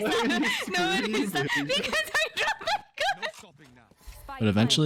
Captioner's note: still laughing